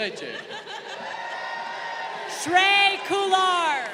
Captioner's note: woman laughing; crowd cheering